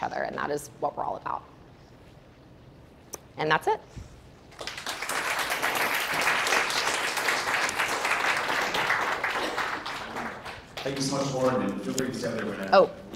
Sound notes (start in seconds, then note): 4.5 audience clapping